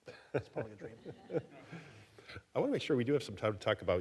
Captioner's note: audience laughing